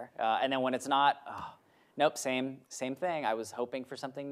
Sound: sighs

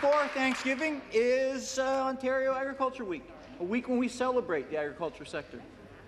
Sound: applause

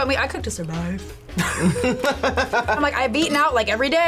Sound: both laugh

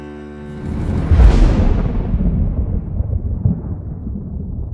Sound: thunder rolls

